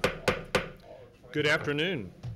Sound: gavel banging

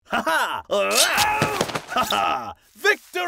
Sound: man screaming; sword stabbing

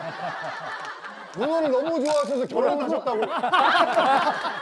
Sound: chuckling

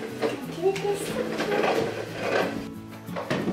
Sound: baby talk

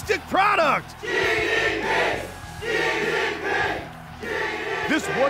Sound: audience chanting

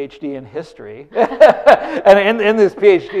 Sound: laughter

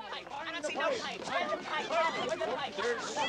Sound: chatter

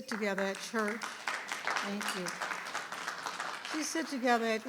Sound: audience clapping

